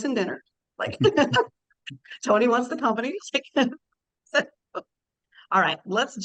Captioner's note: laughs